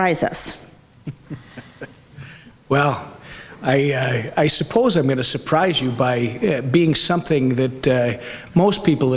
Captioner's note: laughs